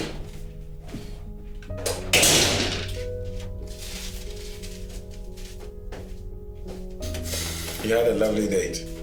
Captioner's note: none